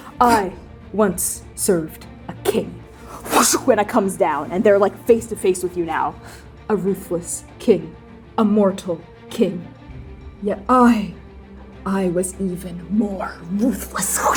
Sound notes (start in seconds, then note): 3.1 fwooshing